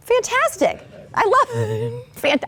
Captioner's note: laughing